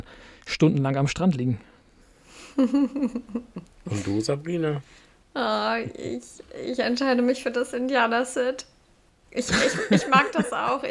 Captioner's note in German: gelächter